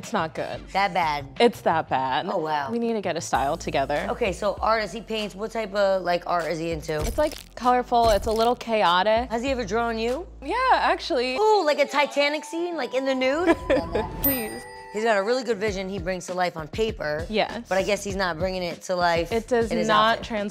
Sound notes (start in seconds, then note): 13.4 laughing